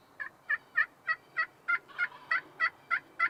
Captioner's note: turkey calls